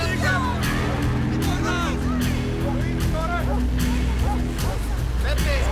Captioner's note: slow dramatic music; people speaking in foreign language